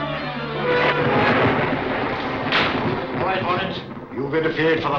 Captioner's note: thunder crashing